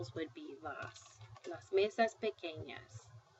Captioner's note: speaking spanish